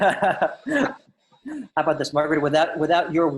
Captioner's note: laughs